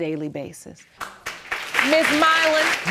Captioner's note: applauding